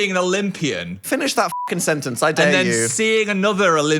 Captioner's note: beep